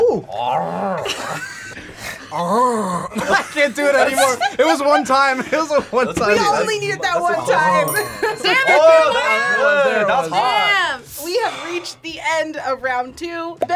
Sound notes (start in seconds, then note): 0.0 both growl; 0.0 growls